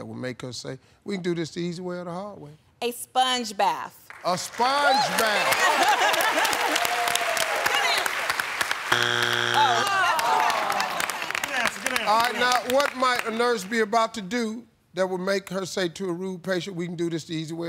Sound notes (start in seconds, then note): 9.5 audience groans